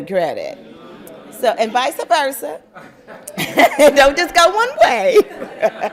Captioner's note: laughter